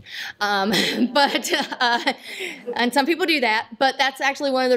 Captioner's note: laughter